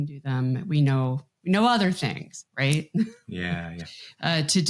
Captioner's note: chuckles